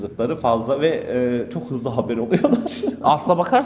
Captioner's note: laughs